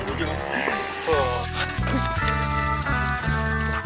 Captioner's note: laughs; spits